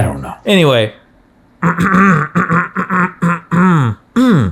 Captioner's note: clearing throat; both humming comedically